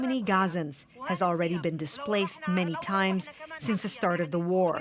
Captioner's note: foreign language